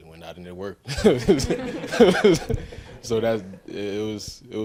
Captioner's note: everyone laughs